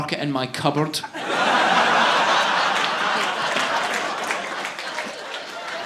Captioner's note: audience laughing